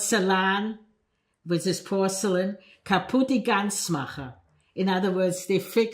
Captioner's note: non-english speech